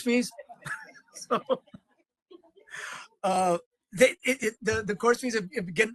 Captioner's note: laughing